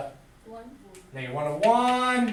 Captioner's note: voiceover